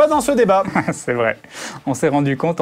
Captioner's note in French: rire